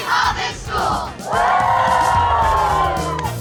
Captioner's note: cheer